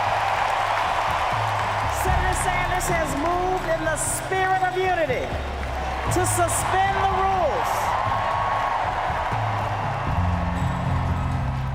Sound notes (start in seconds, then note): 2.5 crowd cheering; 5.3 crowd continues to cheer